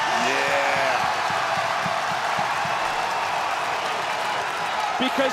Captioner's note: crowd cheer